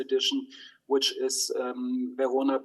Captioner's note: speaks in foreign language